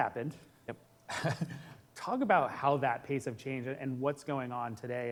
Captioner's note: chuckles